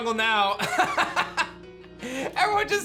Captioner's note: laughs